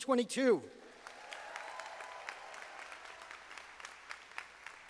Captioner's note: audience applauding